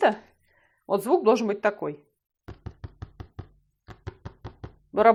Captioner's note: knocks lightly on the stretched canvas